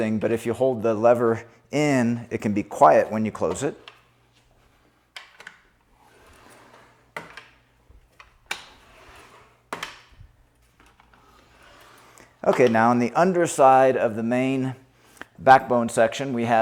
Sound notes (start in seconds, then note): 5.1 platform arm clicks